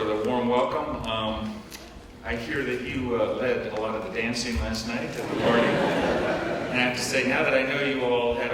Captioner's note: laughing